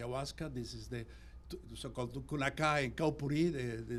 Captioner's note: non-english